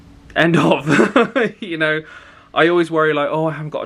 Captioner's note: chuckles